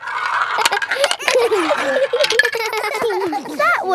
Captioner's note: all giggling